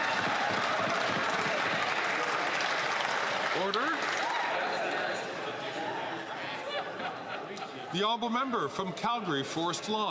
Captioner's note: some Applause